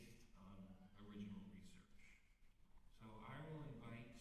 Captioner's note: none